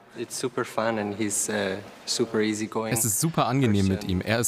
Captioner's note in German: englisch